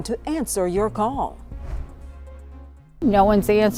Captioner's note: air whooshing